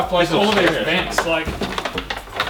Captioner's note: wires rattle